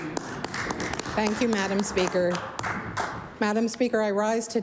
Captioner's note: applause